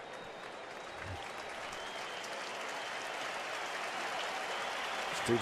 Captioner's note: cheering